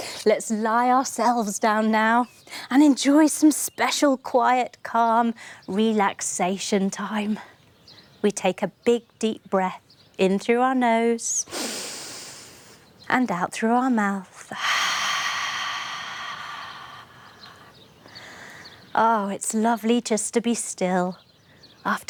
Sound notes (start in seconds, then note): 11.5 inhaling; 14.4 exhaling